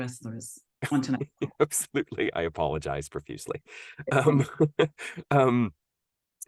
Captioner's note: laughs